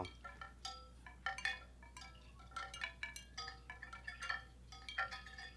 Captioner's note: bones clanging